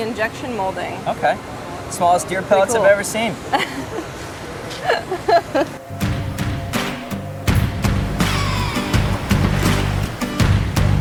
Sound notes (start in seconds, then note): 4.8 laughing; 4.9 upbeat rock music